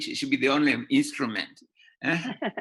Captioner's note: laughter